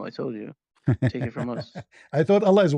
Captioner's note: ketawa